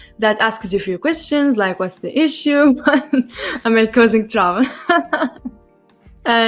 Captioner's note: laughs